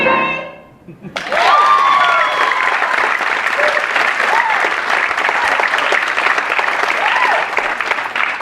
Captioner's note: applause